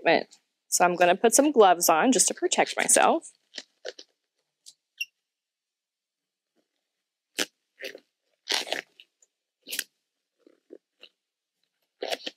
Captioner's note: silence